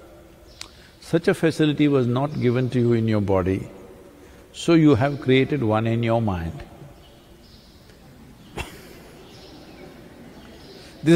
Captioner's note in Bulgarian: Смее се